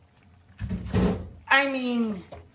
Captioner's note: lid thuds